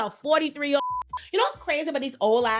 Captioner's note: beeping